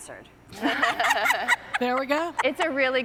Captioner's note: laughing